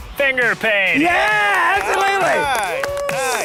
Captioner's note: participants clapping